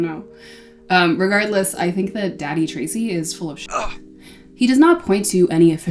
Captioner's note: grunt